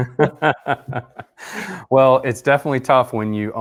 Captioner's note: laughing